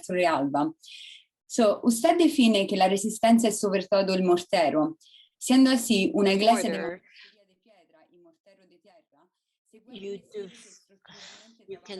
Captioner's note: speaking spanish